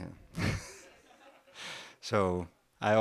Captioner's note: laugh